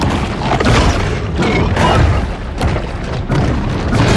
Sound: dramatic music; crashing

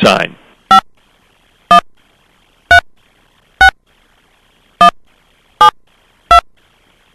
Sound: beeping

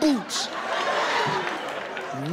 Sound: audience laughing

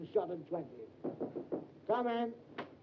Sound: knocking on door

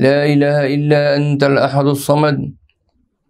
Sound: arabic

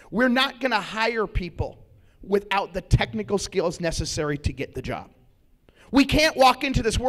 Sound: none

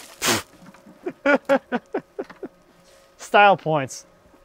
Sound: men laugh

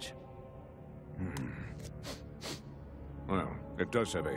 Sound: sniffing

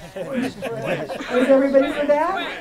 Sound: laughter

